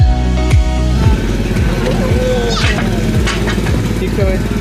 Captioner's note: ride engine rumbling